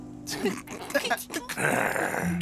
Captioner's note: growling